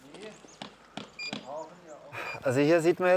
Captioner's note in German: Piepsen